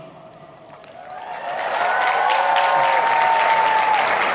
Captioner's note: applauding